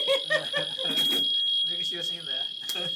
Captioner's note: laughter